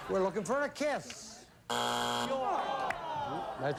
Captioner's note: buzzer